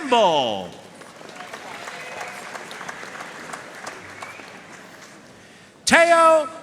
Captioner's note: audience cheering and applauding